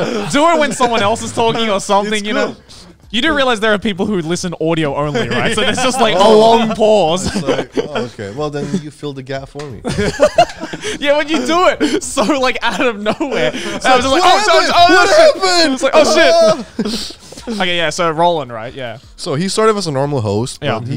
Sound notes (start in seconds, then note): 10.2 all laughing; 13.8 shouting